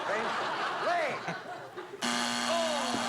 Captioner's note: buzzer